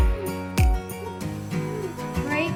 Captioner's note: laughing